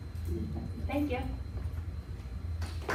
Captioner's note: applause